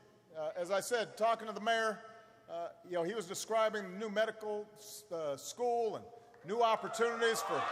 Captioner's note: applause